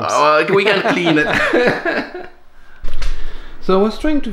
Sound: laughter

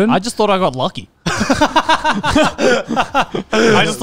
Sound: everyone laughs

